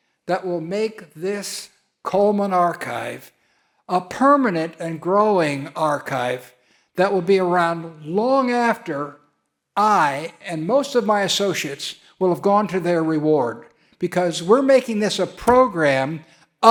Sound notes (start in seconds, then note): none